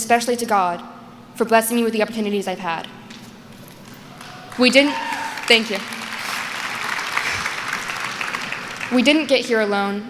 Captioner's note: applause